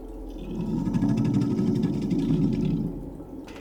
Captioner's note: growling